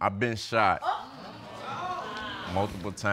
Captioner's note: audience gasping